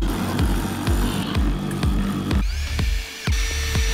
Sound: upbeat music; whirring

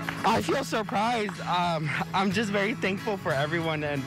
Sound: cheers and applause

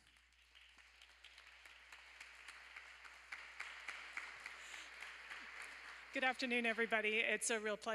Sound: applause

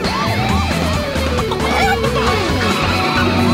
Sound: sirens wailing; clucking

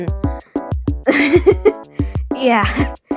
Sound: laughs in sore throat

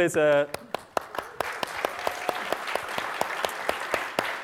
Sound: applause

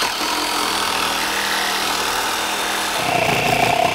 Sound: chainsaw whirring

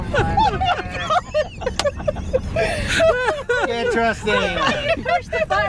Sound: laughing

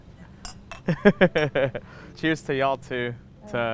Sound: glasses clinking; laughs

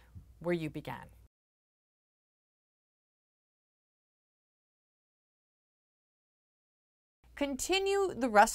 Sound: no Sound Present

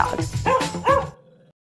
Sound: Penny barking

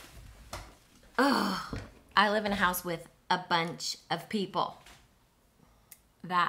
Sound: sighs

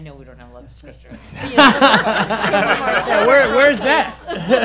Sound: laughing

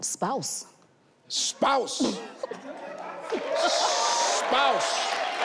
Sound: audience cheers

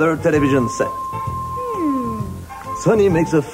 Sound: hums either in agreement or in complete detatchment from the conversation

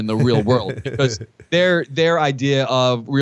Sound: chuckle

